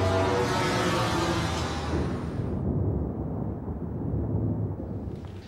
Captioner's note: thunder rumbling